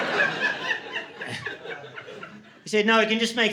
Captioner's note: laughter